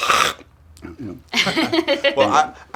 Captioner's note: laughter